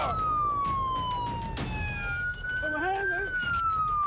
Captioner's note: sirens wailing